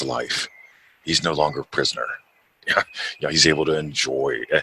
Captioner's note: chuckles